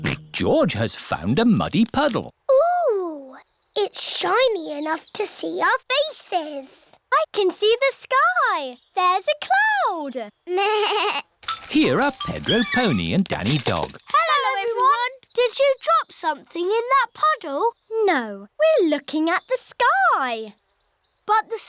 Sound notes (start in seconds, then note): 0.2 snorts; 11.0 bleats